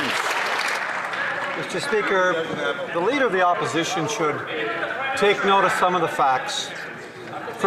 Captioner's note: some Applause